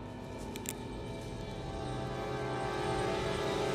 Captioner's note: suspense music; ratchet's gun clicks